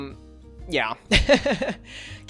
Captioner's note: laughs